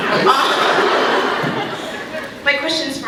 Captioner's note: laughs